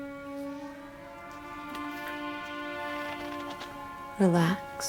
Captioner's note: chair creaks